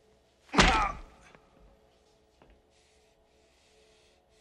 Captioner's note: grunting